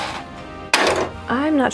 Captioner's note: clatter